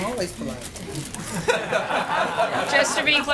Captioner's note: laughter